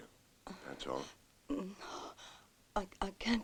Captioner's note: moans